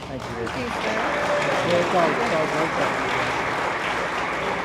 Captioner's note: attendees applaud